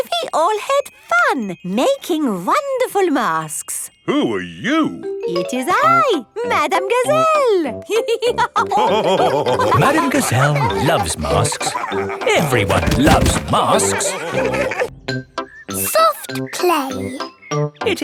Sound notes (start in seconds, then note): 8.7 all laughing